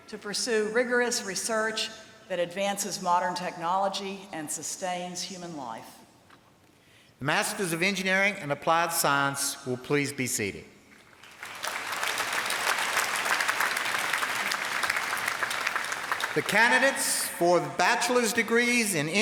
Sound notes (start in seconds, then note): 11.1 applause